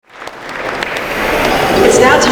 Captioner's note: applause